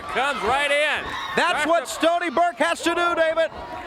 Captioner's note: crowd cheering